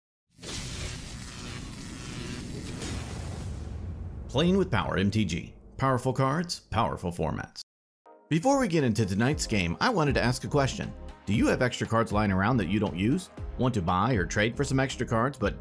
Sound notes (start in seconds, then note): 0.4 electricity crackling; 8.6 bright music